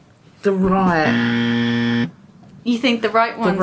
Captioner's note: buzzer blares